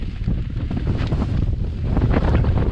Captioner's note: heavy wind